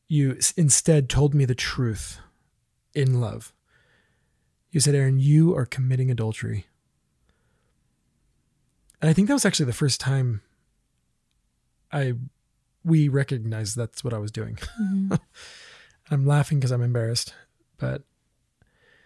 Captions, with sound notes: you instead told me the truth in love. You said, "Aaron, you are committing adultery." And I think that was actually the first time I, we recognized that's what I was doing. (laughs) I'm laughing 'cause I'm embarrassed.